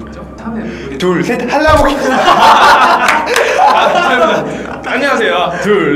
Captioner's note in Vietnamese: 웃음